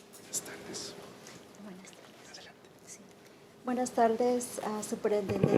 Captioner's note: conversing quietly; speaking in foreign language